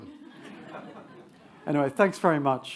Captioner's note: attendees laugh